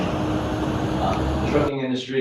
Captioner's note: audio interruption from video